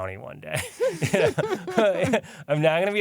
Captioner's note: laughter